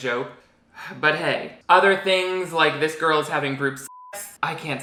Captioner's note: beep